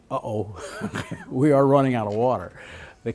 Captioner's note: laughs